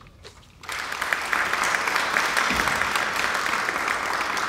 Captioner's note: audience applauding